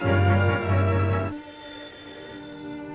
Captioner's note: phone rings